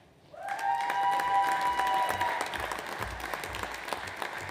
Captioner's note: audience applauds